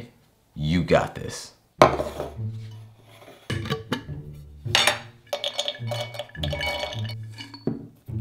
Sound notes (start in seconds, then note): 5.2 walnuts pouring